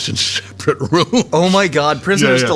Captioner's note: J.K. laughing